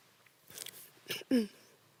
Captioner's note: rustling; coughs; soft breathing